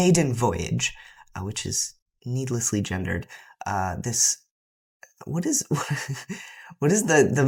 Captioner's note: laughter